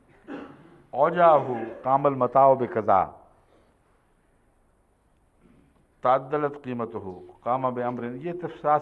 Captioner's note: Arabic